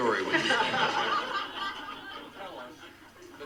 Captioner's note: audience laughs